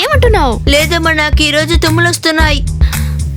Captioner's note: sniffing